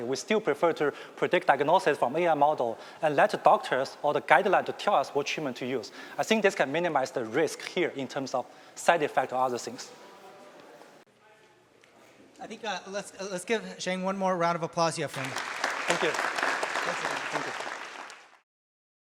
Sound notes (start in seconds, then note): 15.1 applause